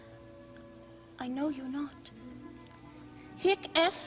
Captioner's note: Sottovoce